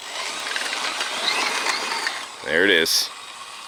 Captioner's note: remote control car engine revs